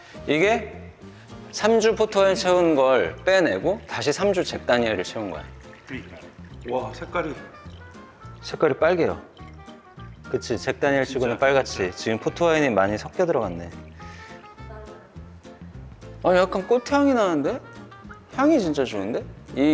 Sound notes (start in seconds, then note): 14.5 sniffing